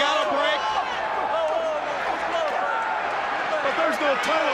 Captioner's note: wrestlers grunt